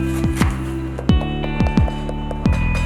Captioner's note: upbeat music; wood knocking